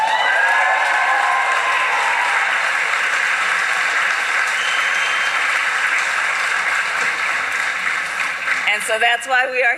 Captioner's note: applause